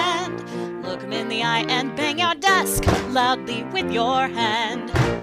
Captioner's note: thud!